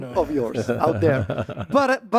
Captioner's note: laughs